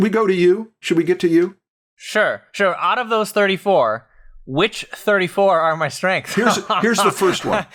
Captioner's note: laughs